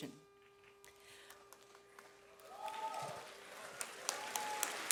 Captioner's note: audience applauds